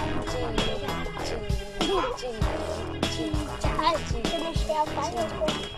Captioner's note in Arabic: بالثرثرة بلغة أجنبية